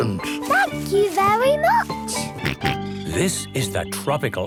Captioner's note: George snorts